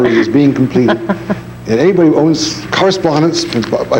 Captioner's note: laughs